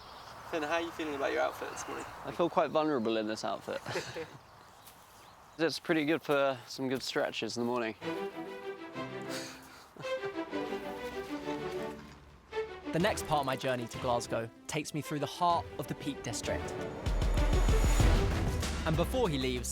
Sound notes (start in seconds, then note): 3.7 laughing; 9.2 laughing